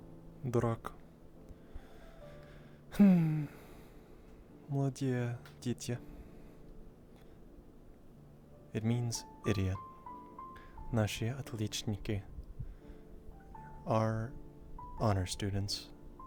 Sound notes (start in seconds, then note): 1.7 heavy Sigh